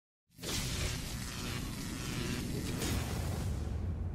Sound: graphics zapping

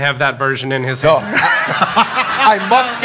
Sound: audience laughing

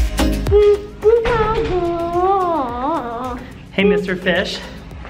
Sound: mumbling

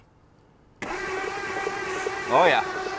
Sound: vehicle engine humming

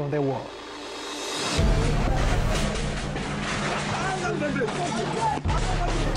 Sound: yelling; crashing

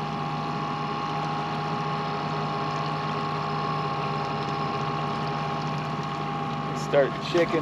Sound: boat engine idling

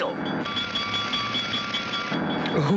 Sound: bell clanging

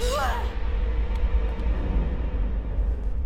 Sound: the Girl is frightened and screams

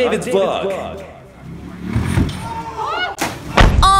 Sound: screaming because of his stupidity

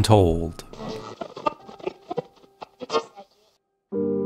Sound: radio static

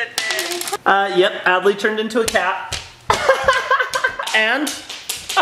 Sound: laughs

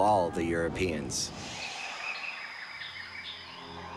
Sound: birds chirping

